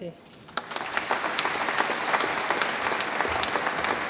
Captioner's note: audience applauds